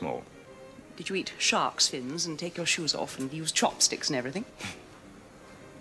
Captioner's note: scoffs